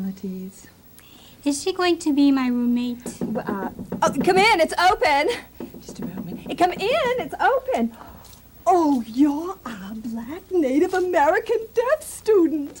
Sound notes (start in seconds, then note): 2.8 knocking; 6.4 knocking continues